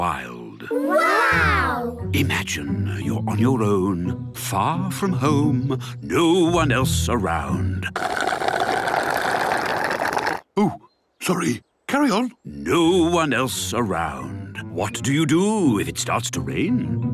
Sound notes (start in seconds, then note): 7.9 slurping